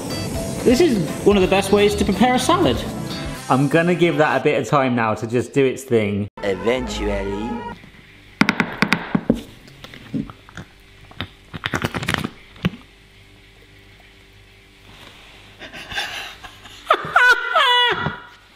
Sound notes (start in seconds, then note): 8.1 glass tapping; 10.1 mixture slurping; 15.6 laughing